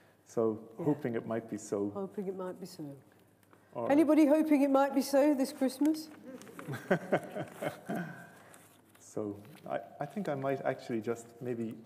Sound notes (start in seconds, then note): 6.5 laughter